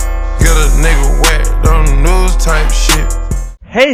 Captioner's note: slur